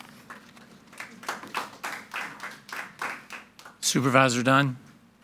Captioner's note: audience applauding